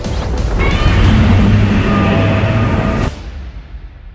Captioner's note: Godzilla Showa Roar